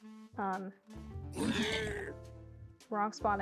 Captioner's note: sounds of sudden piglin death